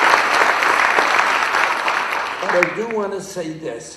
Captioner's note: applause